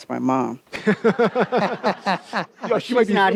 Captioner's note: and audience laughs